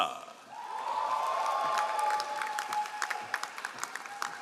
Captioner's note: all applauding